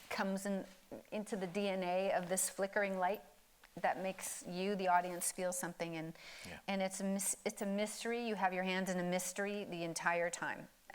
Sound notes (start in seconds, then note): none